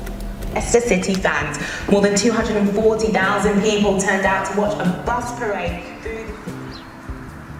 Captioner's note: TV on